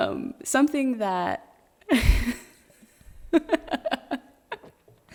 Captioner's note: laughing